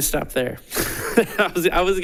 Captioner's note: laughing